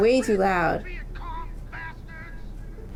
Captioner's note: game audio